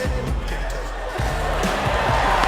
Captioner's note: applause